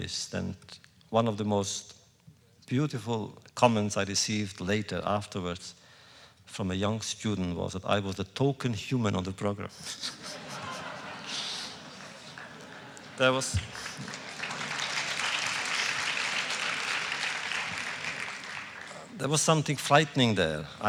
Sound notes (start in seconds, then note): 9.8 laughter; 10.4 applause